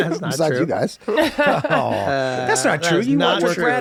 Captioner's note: laughing